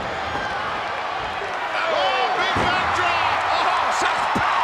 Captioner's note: applause